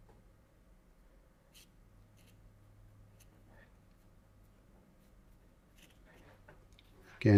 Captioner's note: silence